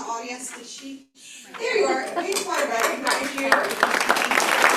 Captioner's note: applause